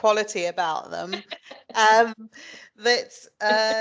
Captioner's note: light laughter